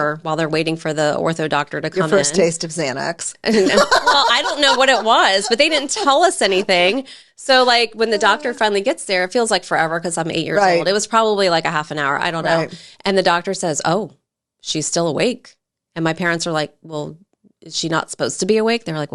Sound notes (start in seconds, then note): 3.5 laughs